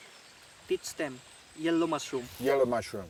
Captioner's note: speaking in foreign language